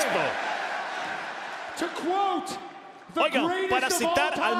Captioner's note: applause